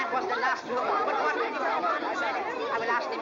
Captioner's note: overlapping chatter